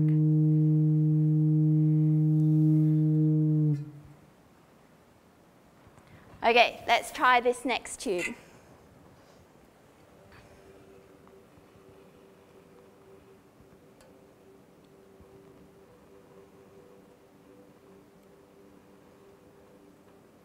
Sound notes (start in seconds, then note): 3.6 sound stops; 10.3 sound of flame burning through tube